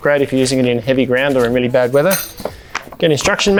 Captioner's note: metal pegs hitting floor